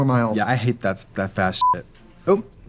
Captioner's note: beeping